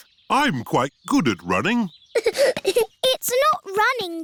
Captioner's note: giggling